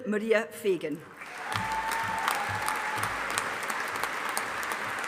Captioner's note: audience applauding